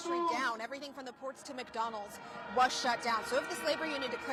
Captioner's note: crowd chanting